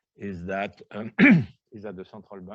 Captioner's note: coughs